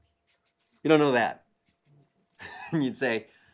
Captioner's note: laugh